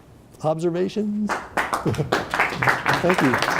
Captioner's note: applause